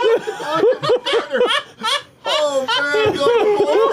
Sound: laughter

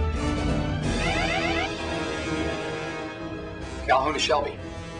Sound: alarm

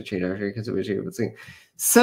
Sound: mumbling

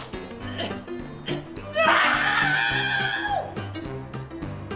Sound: screams

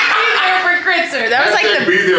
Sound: person laughing

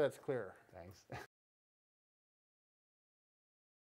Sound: laughs

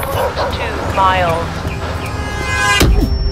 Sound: dog barking and car horns honking

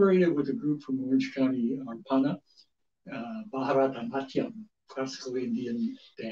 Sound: speaks foreign language

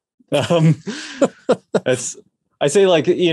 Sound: both laugh

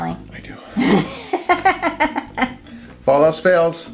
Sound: laughs

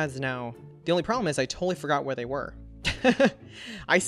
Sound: laughs

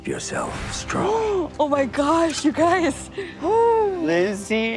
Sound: gasps

